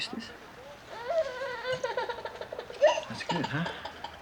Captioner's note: andrea crying